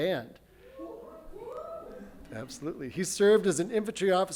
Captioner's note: audience cheers